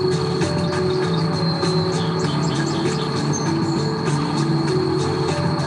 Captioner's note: birds chirping; gentle music